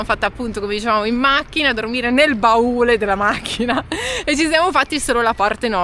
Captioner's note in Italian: risate